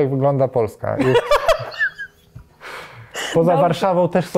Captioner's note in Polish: śmiech